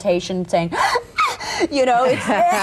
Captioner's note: gasps of joy